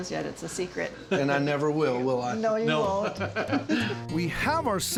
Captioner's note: laughing